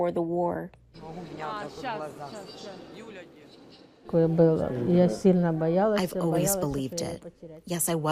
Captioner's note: through translator